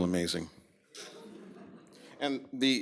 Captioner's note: laughter